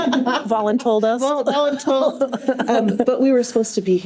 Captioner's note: laughter